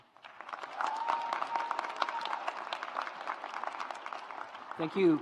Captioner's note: audience applauds